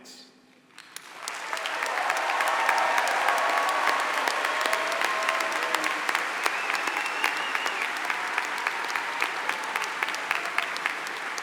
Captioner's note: applause